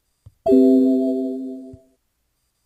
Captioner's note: computer sound